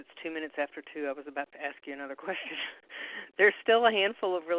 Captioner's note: laughs